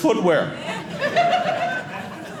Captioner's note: audience laughing